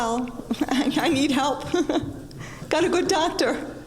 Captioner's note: laughing